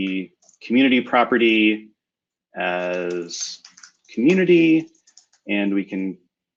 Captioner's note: typing